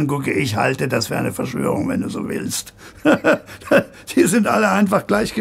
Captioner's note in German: lacht